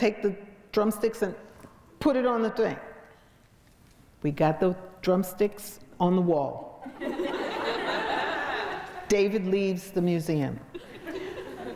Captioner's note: crowd laughs